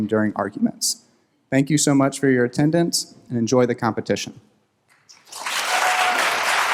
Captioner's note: applause